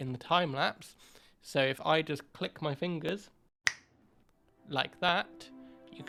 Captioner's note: snap